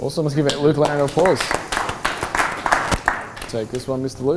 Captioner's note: audience clapping